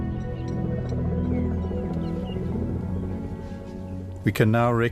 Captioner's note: rumbling